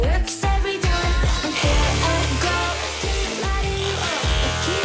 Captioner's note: drilling noise